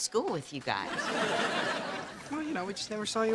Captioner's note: audience laughter